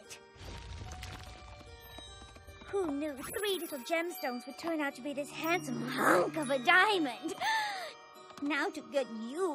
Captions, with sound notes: [ CRUMBLES ] RARITY! ARE WE GLAD TO SEE -- WHY ARE YOU CARRYING A HUMONGOUS BOULDER?